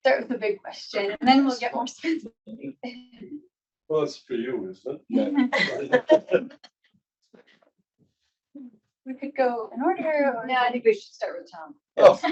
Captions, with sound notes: Start with the big question and then we'll get more... - Well, it's for you, isn't it? (chuckles) - We could go in order or-- - No, I think we should start with Tom.